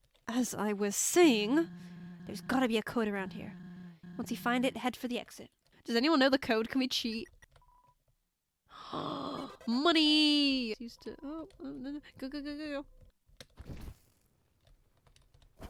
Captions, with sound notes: "As I was saying..." "There's gotta be a code around here." "Once you find it, head for the exit." Does anyone know the code? Can we cheat? (gasps) Moneyyy! "...Used to-" Oop, no, no, go go go!